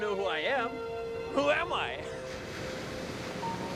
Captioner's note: laughs